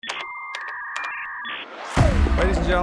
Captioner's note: internet whirring and beeping